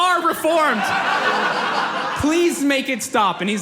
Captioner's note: audience laughs